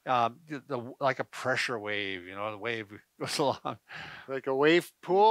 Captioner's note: chuckles